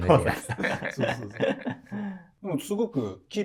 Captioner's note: laughing